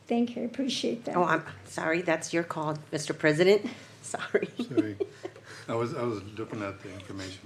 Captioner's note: laughter